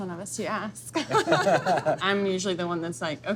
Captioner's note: laugh